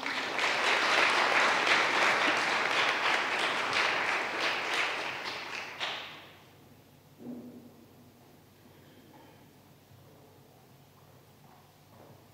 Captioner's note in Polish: oklaski